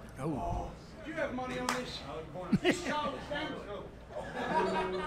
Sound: laughs

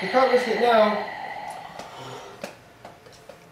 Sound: oxygen mask breathing sound

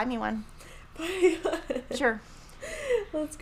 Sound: laughing

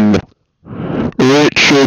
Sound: inhales

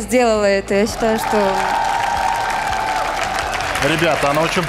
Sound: applause

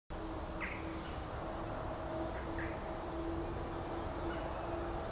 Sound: birds chirping from a distance

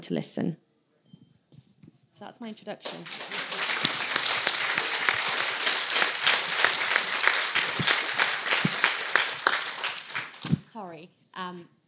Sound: applause

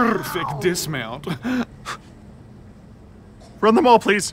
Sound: chuckles

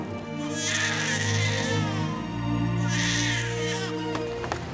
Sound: Bray cries

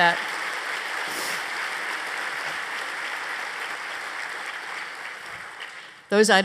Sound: applause

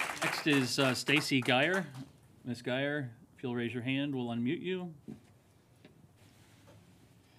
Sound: applause

